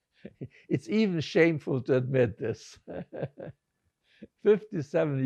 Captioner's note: laughing